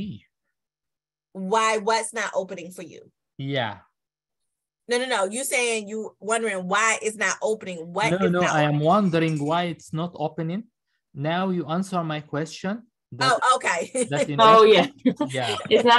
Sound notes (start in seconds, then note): 13.8 laughter